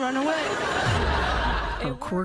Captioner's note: laughter